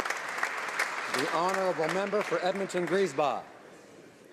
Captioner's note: applause